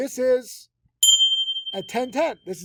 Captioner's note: notification bell ringing